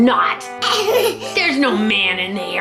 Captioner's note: giggles